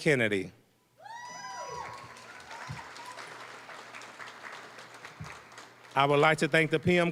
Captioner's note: cheering, applause